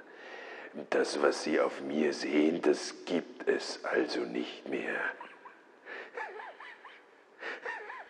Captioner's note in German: Lachen